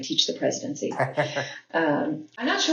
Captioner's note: laugh